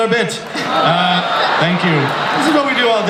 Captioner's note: audience groans